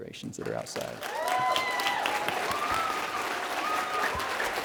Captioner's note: applause